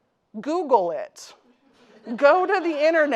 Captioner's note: audience laughing